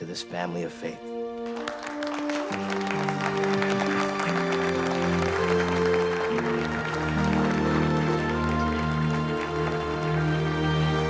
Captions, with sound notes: to this family of faith. (every applauds)